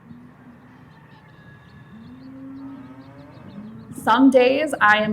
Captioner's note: natural sound, cows mooing, sun coming up over farm